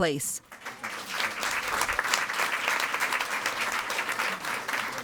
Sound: audience applauding

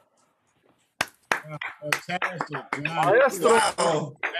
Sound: applause

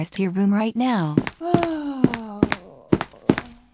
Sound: sigh

